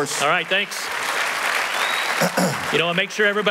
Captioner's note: applause